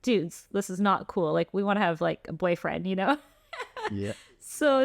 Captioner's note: laughter